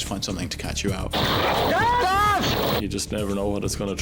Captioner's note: rescuers scream indistinctly